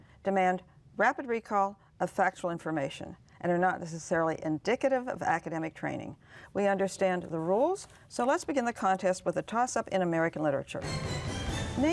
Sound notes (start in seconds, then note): none